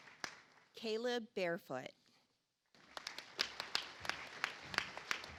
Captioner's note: audience applauds